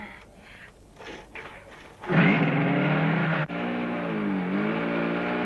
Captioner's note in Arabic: هدير المحرك